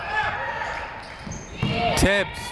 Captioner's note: people shouting in the crowd